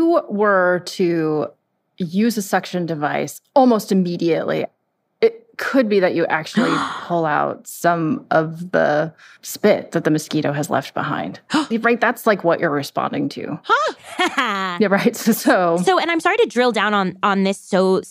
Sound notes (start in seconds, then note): 11.5 gasps; 13.7 laughs